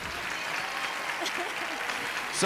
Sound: cheers and applause; laughs

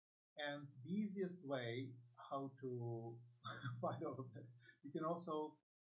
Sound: laughs

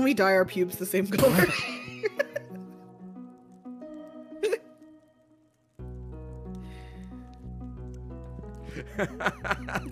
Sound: laughs

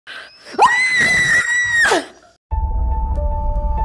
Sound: screaming; creepy music

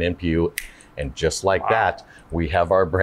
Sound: snaps fingers

